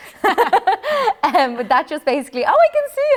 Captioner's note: laughter